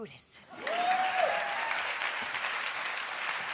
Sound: applause

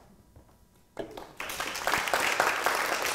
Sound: applause

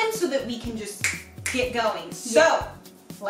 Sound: finger snapping

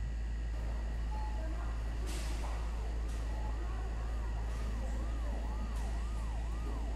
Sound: hospital noises

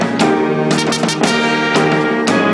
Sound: none

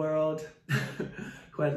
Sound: chuckles

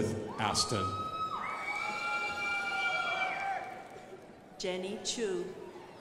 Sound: crowd applauding

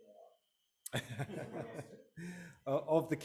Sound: audio break; laughing

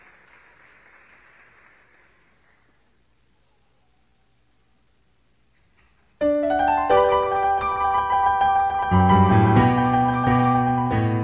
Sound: applause

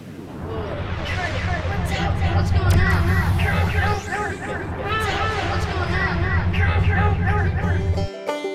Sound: echoing; electronic whirring sound

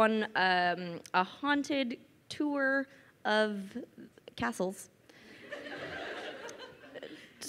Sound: crowd laughing

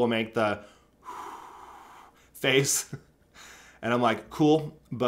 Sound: blowing

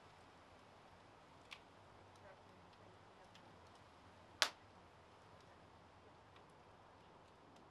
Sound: crackling fire

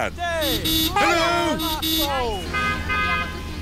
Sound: honking; italians honk back

